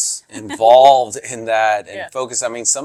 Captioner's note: chuckles